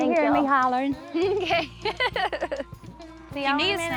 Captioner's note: giggles